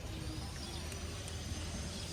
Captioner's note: the noise of building a hospital in the temple